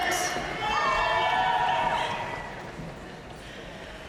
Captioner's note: audience cheering and applauding